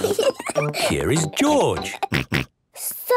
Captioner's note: snort